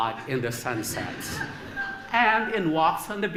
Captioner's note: laughter